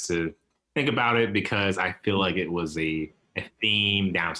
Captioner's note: chuckles